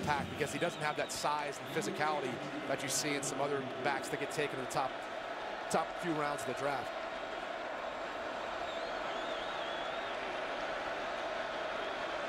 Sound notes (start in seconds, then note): 7.7 crowd cheering